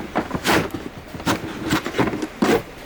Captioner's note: none